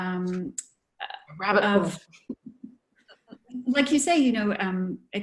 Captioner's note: laughter